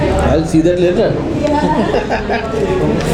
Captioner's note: laughs